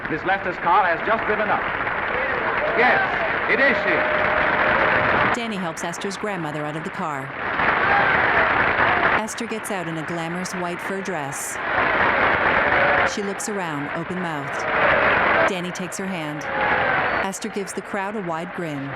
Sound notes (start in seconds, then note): 4.8 uproarious applause; 8.4 crowd cheering; 13.5 uproarious applause